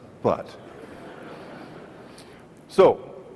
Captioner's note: audience laughs